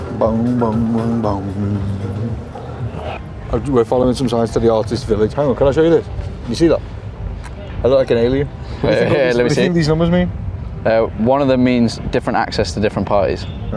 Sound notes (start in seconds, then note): 9.1 chuckles